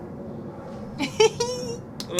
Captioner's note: laughter